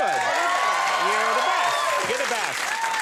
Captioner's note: audience cheers